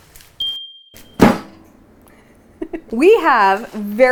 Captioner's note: machine dings; pie dough thumping